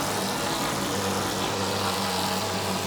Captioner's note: whirring